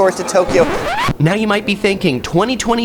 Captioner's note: record scratches